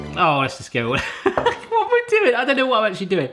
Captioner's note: laughter